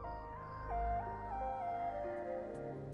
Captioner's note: rooster crowing